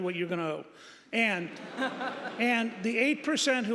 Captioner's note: audience applauding